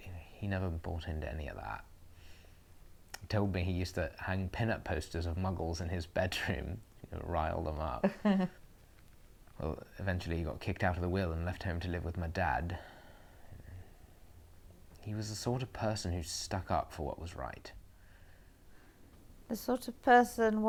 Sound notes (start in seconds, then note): 8.0 Aquila laughs